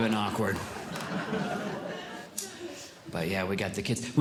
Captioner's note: audience Laughing